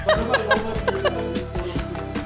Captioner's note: laughing